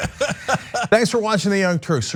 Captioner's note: laugh